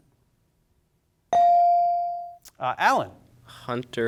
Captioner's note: bell sounding